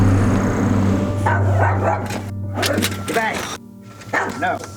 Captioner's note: dogs barking